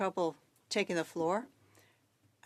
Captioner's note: speaking French